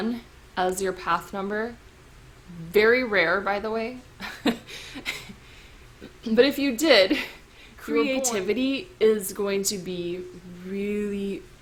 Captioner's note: chuckle